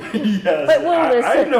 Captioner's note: laughing